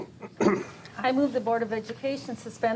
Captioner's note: board member clears throat